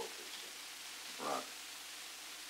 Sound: Murrow, mumbling

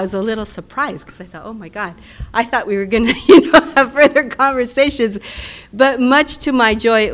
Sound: laugh

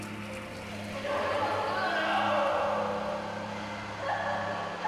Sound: coffee dripping; distorted voices crying, moaning

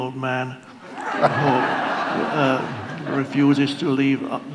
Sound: audience laughs

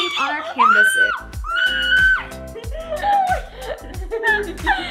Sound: screaming

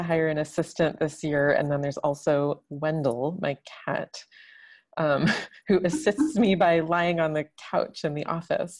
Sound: laughs

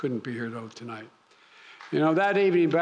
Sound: applause

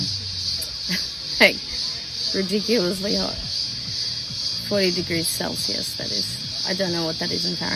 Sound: laughs

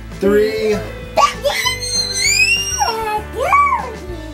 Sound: screaming

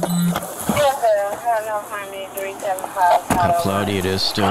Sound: radio dispatching in background

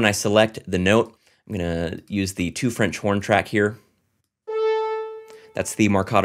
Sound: horn blares

